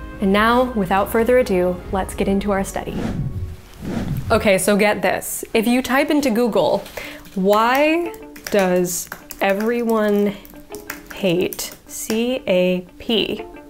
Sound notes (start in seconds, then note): 2.7 air whooshes